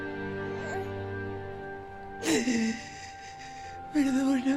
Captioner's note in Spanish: Sollozos